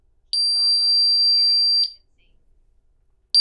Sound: beeping

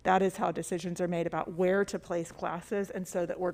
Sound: none

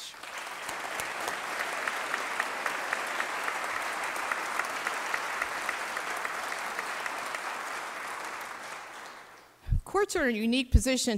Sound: applause

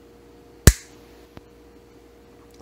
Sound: loud snap

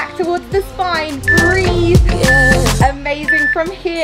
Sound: beeping

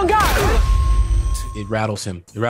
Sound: gun fires

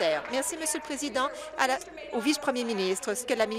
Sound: applause

